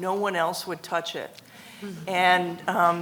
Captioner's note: congregation laughs